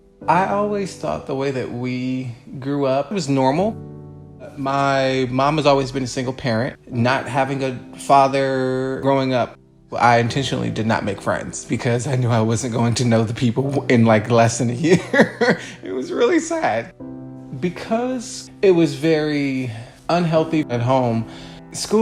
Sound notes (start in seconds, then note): 14.9 laughs; 16.9 somber music